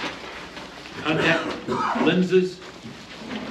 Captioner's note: reading from paper